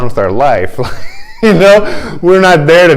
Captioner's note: laughter